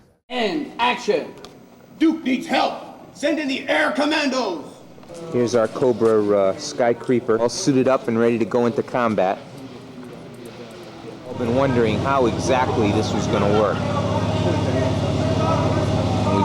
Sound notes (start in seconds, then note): none